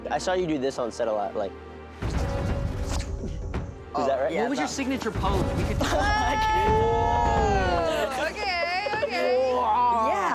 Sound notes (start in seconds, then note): 2.0 suspenseful music; 7.4 laughs